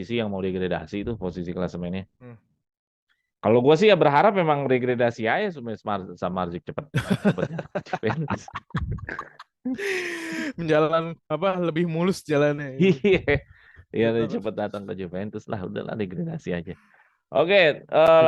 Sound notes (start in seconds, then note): 7.1 laughs